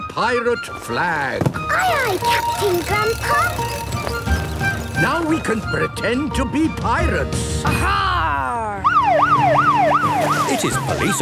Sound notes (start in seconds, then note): 8.8 siren wailing